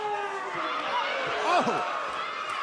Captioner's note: crowd chatter